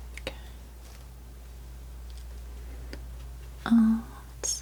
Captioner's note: scratching